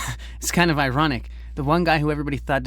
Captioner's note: laughs